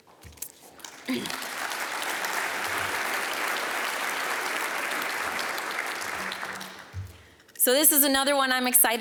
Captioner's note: applause